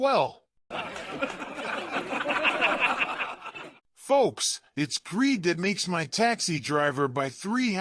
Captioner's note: students laughing